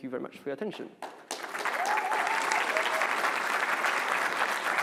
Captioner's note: applause